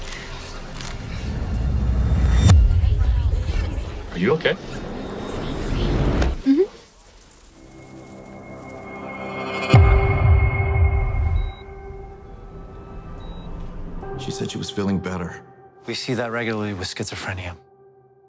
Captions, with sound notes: Are you okay? Uh hum. (light suspenseful music) (faint equipment beeping) She said she was feeling better. We see that regularly with schizophrenia,